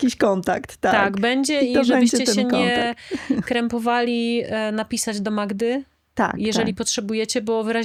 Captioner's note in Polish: śmiech